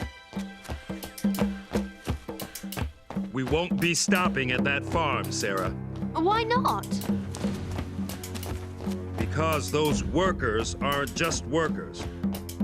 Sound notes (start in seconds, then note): none